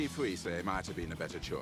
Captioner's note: speaking in foreign language